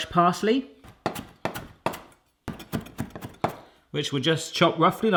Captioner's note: thudding